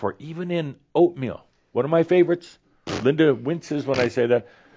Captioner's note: makes rude noises